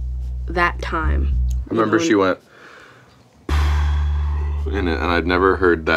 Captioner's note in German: atmet aus